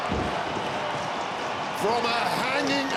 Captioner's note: crowd cheering